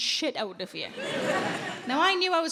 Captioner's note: audience laughs